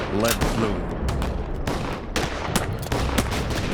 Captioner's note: loud gunshots